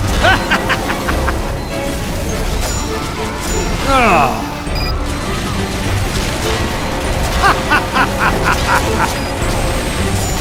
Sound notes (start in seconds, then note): 0.1 evil French laugh; 3.8 french disappointment; 7.3 evil French laugh 2